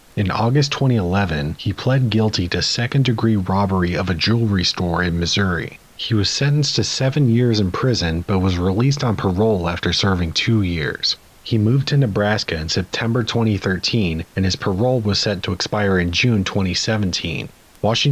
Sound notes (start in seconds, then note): none